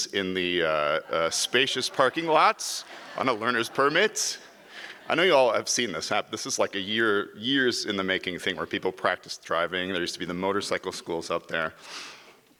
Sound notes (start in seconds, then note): 4.7 audience laughs